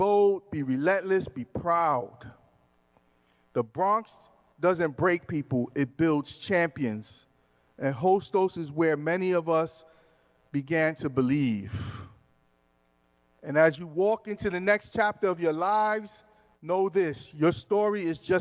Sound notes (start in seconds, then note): none